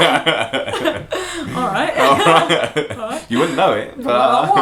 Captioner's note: laughter